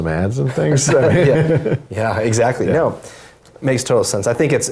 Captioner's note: laugh